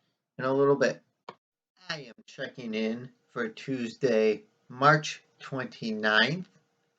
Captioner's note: click